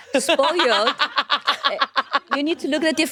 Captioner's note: laughing